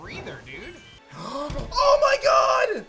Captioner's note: gasps